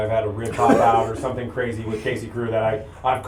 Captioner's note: laughter